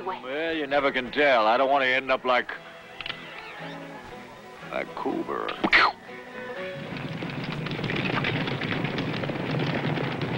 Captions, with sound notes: Well, you never can tell. I don't want to end up like... [CLICK] Like Coburn.